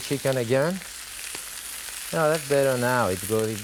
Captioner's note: chicken sizzling